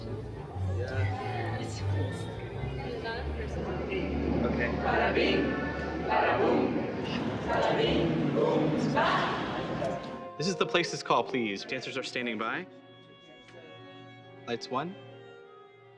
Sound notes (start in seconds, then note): 0.0 chatter; 4.8 all speaking Spanish